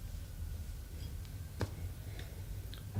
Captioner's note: sniffs the glass